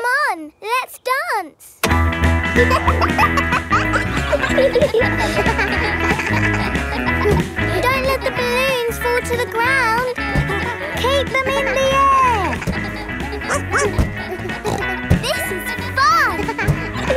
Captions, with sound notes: Come on, let's dance! (POP MUSIC PLAYING) (KIDS LAUGHING) Don't let the balloons fall to the ground. Keep them in the air! (BARKS) (SNORTS) This is fun!